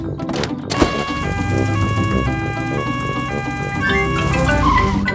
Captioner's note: siren wails